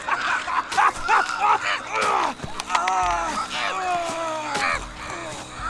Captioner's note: Sounds of Elias getting mauled by the Arctails; Elias screams, blood splatters